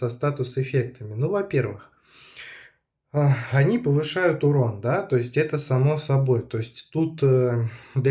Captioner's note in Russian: тяжело вздыхает; вздыхает